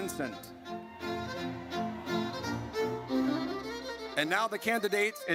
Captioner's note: audience cheers